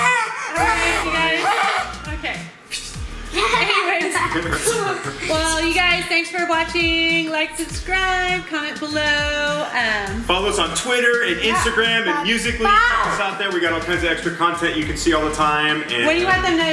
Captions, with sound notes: - All right, you guys. Okay. Anyways. Well, you guys, thanks for watching, like, subscribe, comment below, - Follow us on Twitter, Instagram (shouts) We got all kinds of extra content you can see all the time.